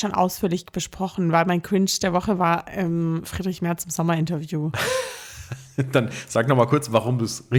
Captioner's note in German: gelächter